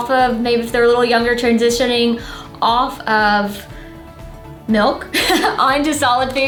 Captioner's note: laughs